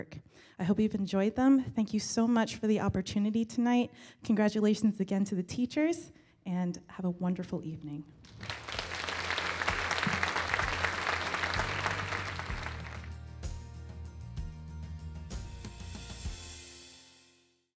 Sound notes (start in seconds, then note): 8.2 applause/Music